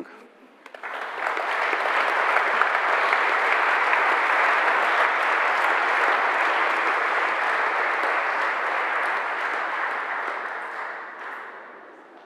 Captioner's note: general applause